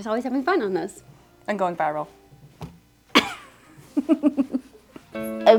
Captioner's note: chuckles